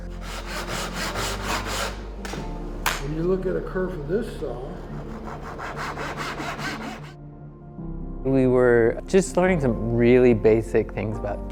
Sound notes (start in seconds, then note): 0.0 saw grinding; 4.2 saw grinding